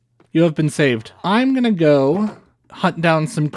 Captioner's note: none